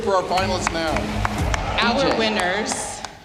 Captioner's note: cheering, applause